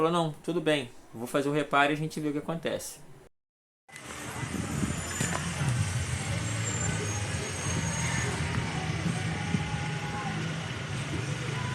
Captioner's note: street sound